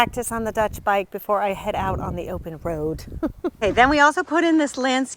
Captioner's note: giggles